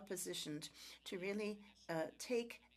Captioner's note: speaking French